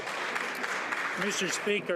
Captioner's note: some Applause